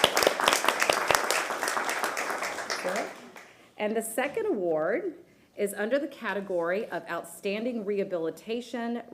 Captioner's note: applause